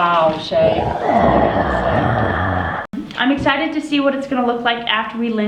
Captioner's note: growling